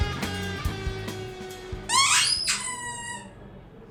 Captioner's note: sqeek!